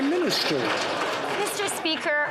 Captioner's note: some Applause